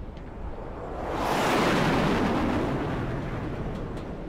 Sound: jet go brrrrrrrrrrrrrrrrrrrrrrrrrrrrrrrr

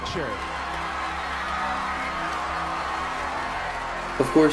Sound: cheers

